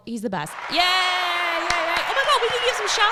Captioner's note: clapping